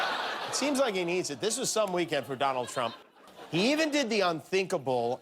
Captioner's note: laughter